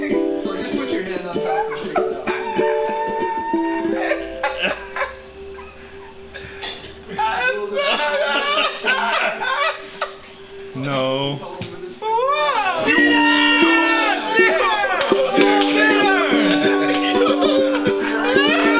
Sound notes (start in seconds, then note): 7.2 laughing; 14.8 clapping, celebrating